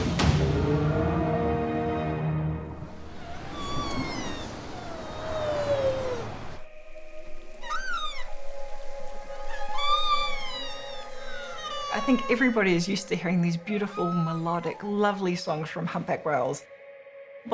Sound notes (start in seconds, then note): 0.1 whale grunting; 2.7 whale crying